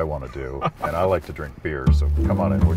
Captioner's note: laughing